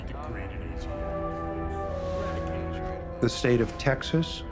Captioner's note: people chattering in background